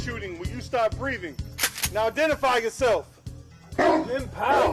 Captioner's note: gun cocks